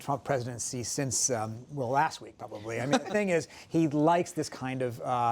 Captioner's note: laughter